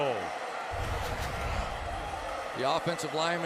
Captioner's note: pa announcement